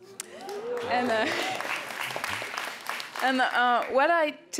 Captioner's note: audience applauds